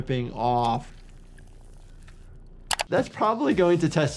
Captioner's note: flesh squelching; mouse clicks